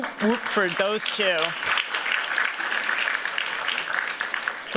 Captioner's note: applause